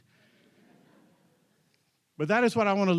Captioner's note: audience chuckles